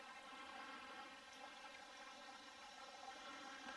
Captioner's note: burbling water